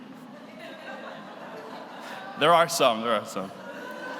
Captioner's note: audience laughs